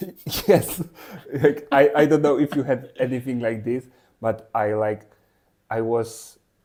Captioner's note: laughs